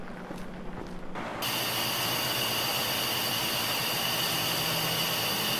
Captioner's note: steam hissing